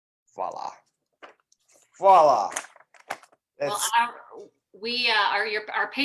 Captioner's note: speaks in a foreign language